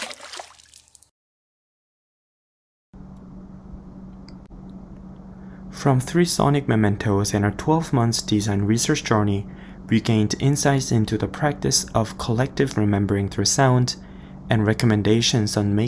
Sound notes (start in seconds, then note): 0.0 splash sound; 0.0 water running from shower